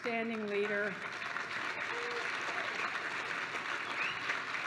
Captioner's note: applause